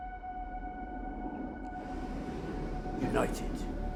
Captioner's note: dramatic music; waves crashing